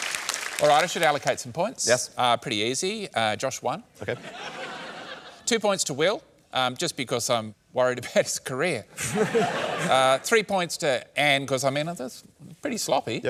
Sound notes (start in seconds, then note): 4.1 laughter; 8.9 laughter